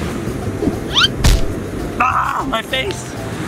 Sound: comical thump

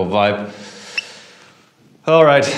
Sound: deep inhale

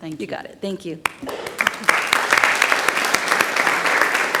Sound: audience claps

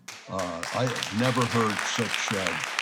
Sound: audience applauds

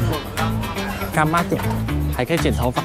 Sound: Taiwanese

